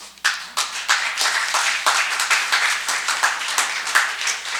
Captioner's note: audience applauds